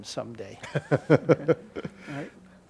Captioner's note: laughing